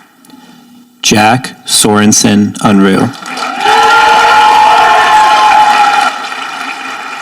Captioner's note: audience applauding